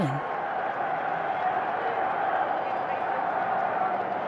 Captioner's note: crowd noise